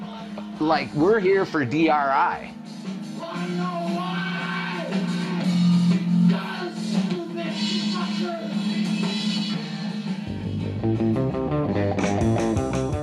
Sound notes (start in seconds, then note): 4.0 wails